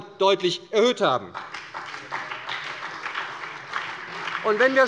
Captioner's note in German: Beifall bei der SPD